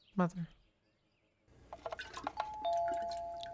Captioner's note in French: sonnette